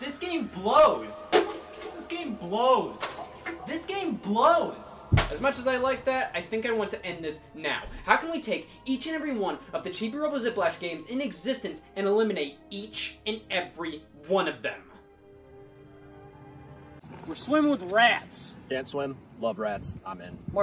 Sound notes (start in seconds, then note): 1.2 water sloshes; 1.3 case thuds; 2.8 water sloshes; 3.0 case thuds; 5.0 water sloshes; 5.1 case thuds